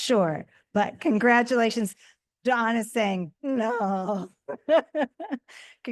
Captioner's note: laughing